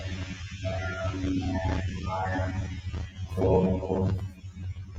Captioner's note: distorted audio